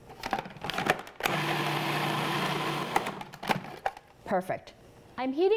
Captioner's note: food processor whirling